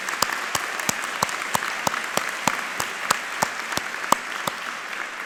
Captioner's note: all applauding